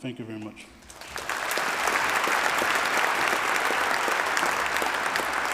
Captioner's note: applause